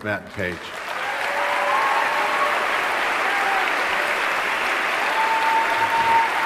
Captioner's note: standing ovation